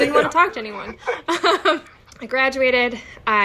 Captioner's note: laughing